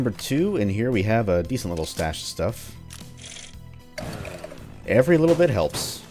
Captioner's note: Jackie revs again